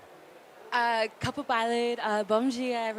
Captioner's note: speaks indigenous language